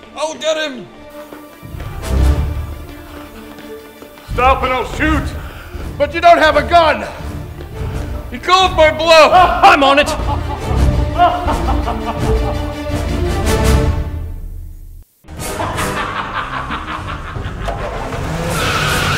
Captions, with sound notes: I'll get him! Stop and I'll shoot! But, you don't have a gun! He called my bluff! I'm on it! (distant laughter) (heavy breathing) HAHAHAHA!